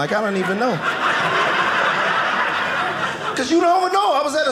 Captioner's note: audience laughing